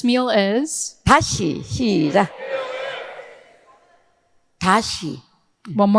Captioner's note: speaking in foreign language